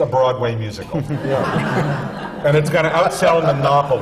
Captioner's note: laughter